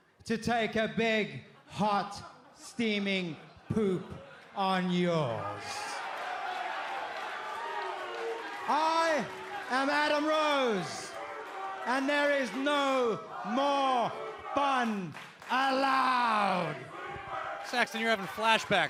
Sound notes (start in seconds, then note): 7.3 crowd chatter